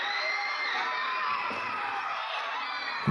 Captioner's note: audience cheering